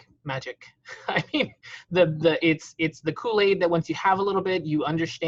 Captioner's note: laughing